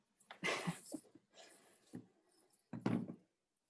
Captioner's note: laughs